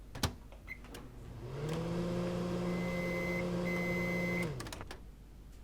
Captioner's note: microwave whirring, beeps